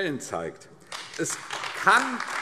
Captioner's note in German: Beifall AfD